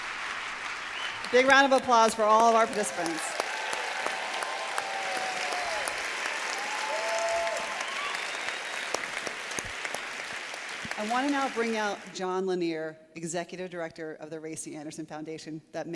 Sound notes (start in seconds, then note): 4.0 applause